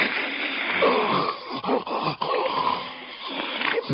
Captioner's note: choking